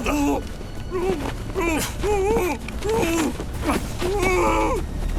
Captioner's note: muffled screaming, whimpering